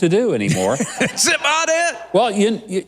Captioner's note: laughs